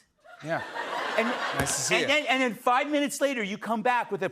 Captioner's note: laughter